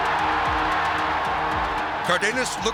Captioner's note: crowd cheering